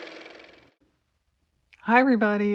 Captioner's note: car motor